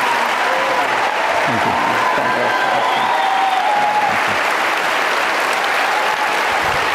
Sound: audience cheering

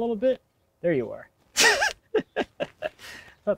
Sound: laughs

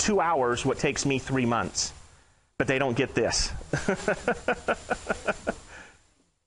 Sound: laughing

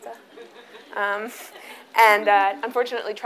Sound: audience chuckles

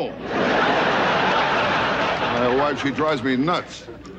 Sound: audience laughing

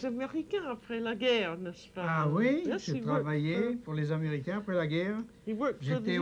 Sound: speaking French

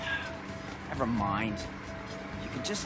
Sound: sighing

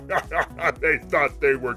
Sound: laughs; voice tone change

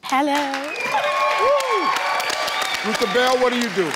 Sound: audience and team cheers

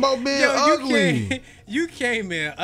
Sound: laughs

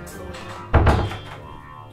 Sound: the door closes

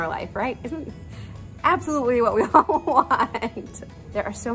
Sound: laughs

